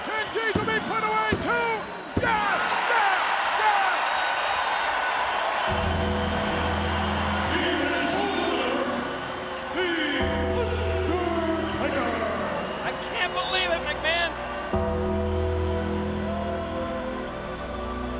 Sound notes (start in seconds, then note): 4.5 bell ringing